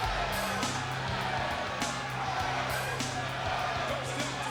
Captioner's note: crowd chanting